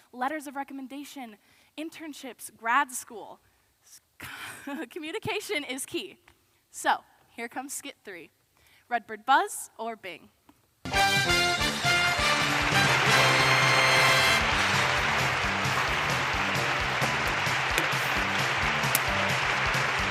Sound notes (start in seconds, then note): 11.1 upbeat big band music; 13.5 applause